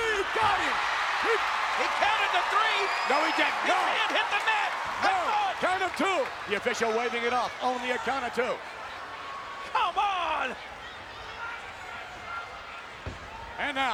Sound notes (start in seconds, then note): 1.0 audience cheering; 11.4 audience chattering